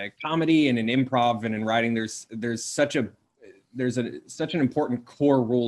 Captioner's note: stuttering